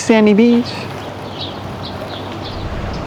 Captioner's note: birds chirping